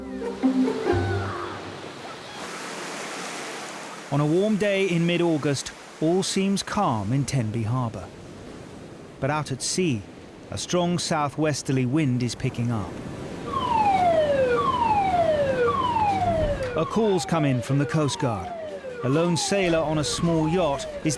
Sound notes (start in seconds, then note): 0.3 waves crashing; 13.4 alarm blaring